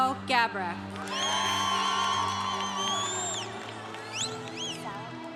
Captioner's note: congregation cheering